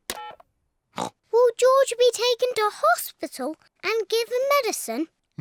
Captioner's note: oinks